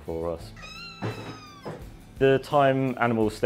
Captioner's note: meow